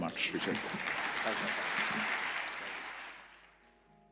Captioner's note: applause